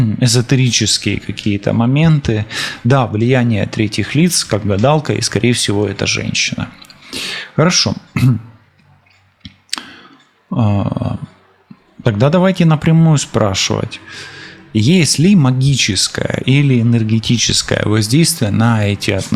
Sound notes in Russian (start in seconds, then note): 8.1 откашливается; 8.8 фыркает